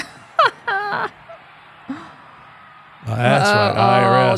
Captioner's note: laughing